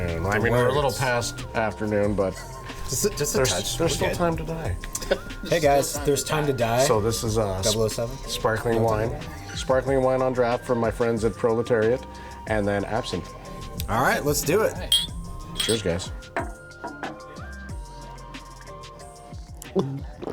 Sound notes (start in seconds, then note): 14.8 glass clanking; 17.0 slow upbeat music